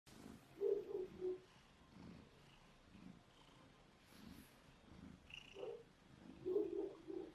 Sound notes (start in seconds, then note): 0.1 purring; 0.5 dog barking